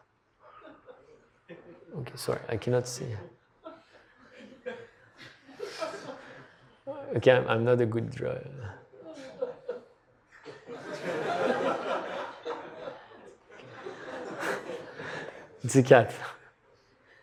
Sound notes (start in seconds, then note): 0.4 laughter; 3.6 laughter; 12.8 laughter